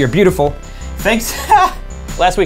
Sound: chuckle

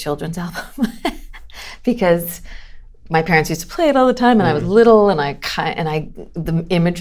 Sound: laughter

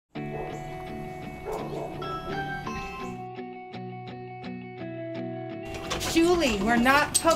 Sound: doorbell

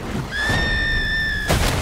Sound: girl screams

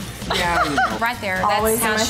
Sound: laughs

